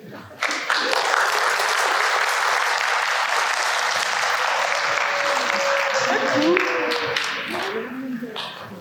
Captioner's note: applause